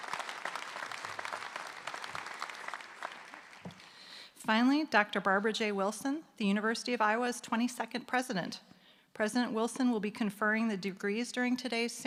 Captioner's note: applause